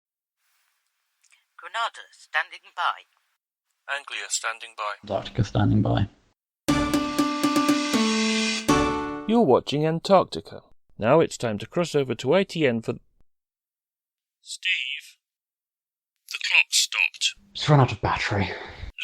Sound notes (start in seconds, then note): 14.2 off mic